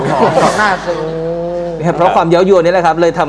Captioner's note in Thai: หัวเราะ